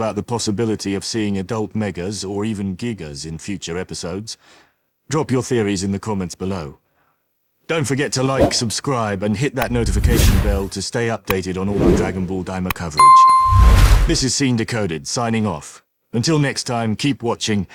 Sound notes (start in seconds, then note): 9.6 swoosh; 13.0 ding; 13.0 swoosh